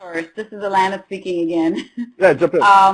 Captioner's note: laughs